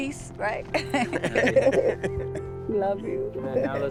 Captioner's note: laughter